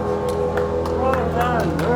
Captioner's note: applause